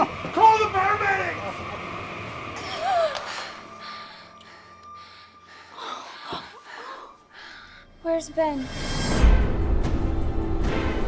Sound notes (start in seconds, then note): 2.1 gasps; 8.9 intriguing music